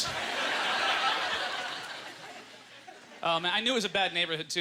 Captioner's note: audience laughter